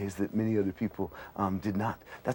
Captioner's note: none